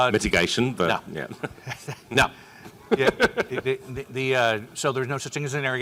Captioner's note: laughs